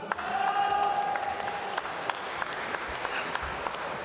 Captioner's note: applause